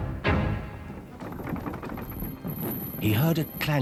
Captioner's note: chain rattling